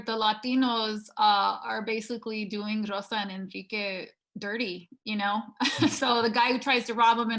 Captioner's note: laughing